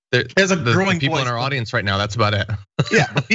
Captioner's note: laugh